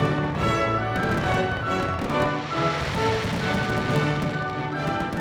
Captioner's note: fireworks exploding